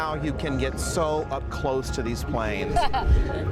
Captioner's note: laughs